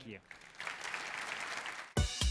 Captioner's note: applause